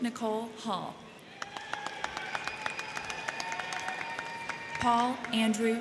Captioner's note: crowd cheering; crowd clapping